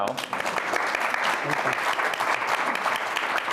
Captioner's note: applause